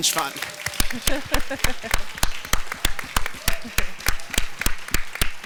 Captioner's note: audience applauding